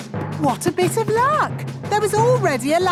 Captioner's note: none